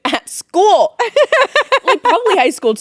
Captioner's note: Courtney laughing